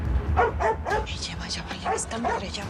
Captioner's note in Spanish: Ladridos